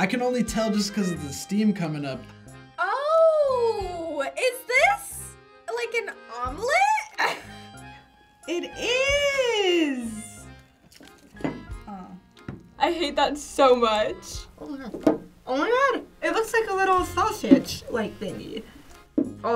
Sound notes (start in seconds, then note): 6.9 laughs